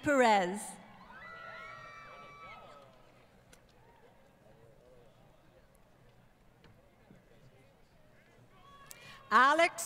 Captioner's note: crowd Cheering & Applause